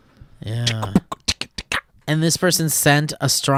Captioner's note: beatboxes